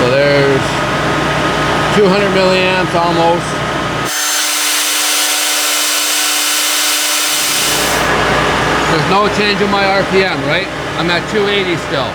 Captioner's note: sped up motor noises